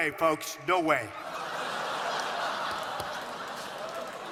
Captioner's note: laughter